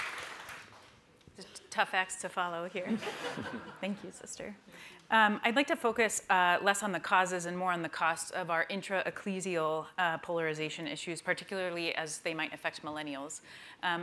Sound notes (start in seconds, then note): 2.8 laughter